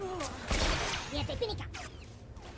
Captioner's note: gun firing